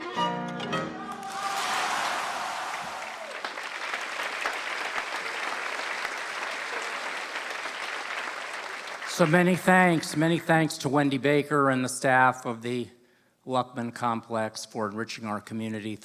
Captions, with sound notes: [ Applause ] So many thanks, many thanks to Wendy Baker and the staff of the Luckman Complex for enriching our community